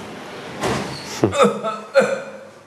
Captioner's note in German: Hustende Laute